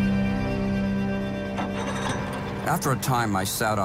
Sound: boat engine revving

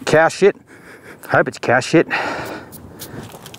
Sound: sniffs

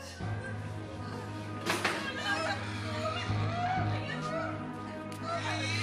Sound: nun crying; pig squealing

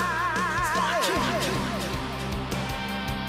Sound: fading echo

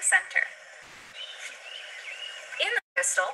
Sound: birds chirping

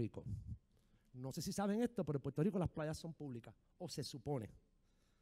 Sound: speaking in foreign language

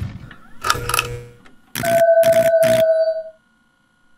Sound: twitching wires

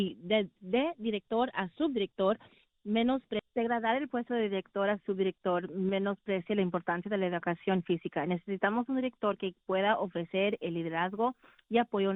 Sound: speaking spanish

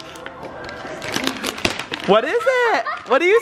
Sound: paper crinkling

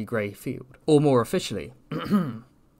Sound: ahem

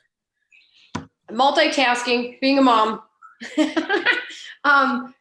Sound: laughs

